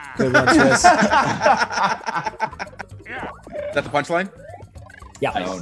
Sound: laugh

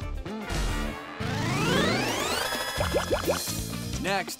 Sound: popping sound

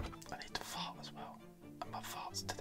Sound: whispering

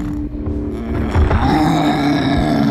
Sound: growling

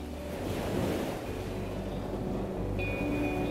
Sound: waves splashing

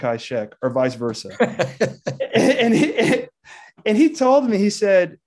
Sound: laughing

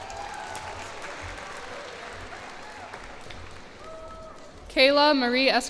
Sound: cheers and applause

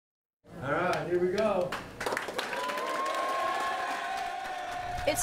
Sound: clapping/cheering

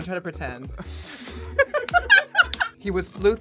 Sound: laughing

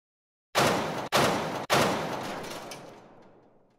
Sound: loud booms

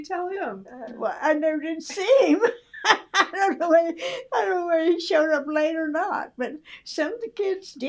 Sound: laughs

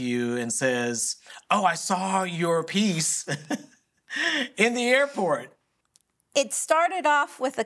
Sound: laughs

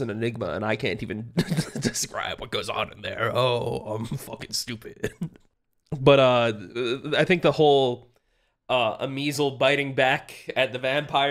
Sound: laughs

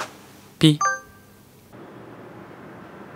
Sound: beep

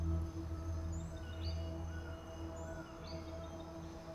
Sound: birds chirping

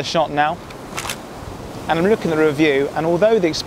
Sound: camera shutter

